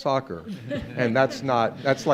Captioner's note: group laughs